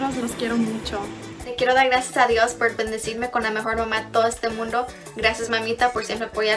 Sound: speaks in foreign language

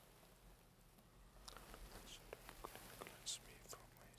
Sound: whispering

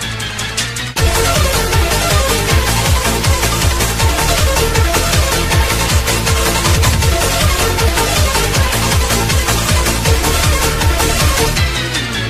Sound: ass vibrating commences

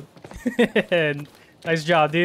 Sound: laugh

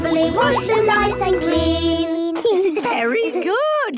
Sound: children giggling

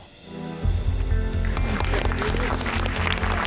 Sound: clapping

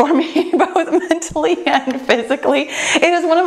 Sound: chuckling

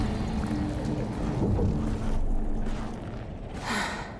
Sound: sigh

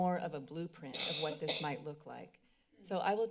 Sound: coughing in background

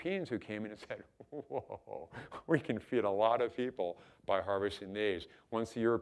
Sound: chuckling

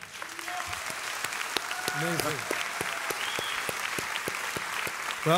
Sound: audience applauds

